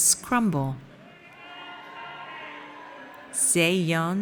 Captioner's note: audience cheers